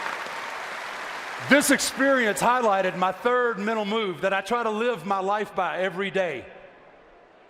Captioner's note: applause